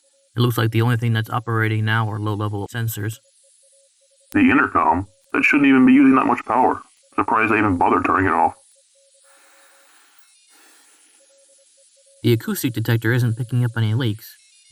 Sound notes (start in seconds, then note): 9.2 the hiss and signal both grow louder